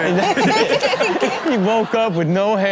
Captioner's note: Karrueche laughs